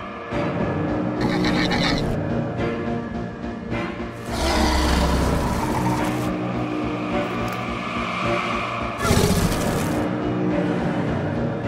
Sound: Scorpius Rex growls

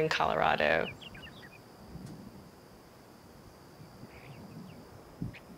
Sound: birds chirp

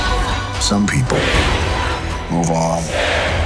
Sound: crowd chanting

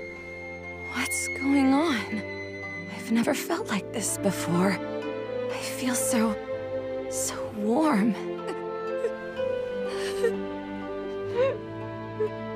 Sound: Moroha begins to cry

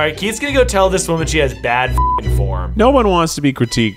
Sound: beep

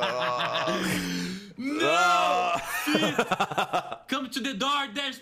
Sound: laughs; laughs

